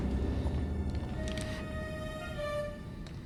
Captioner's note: none